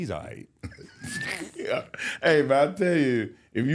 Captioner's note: Mark laughs